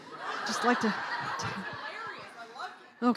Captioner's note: laughing